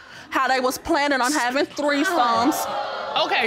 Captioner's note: audience gasps